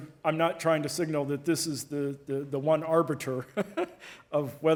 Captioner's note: giggles